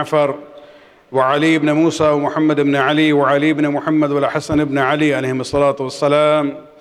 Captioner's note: arabic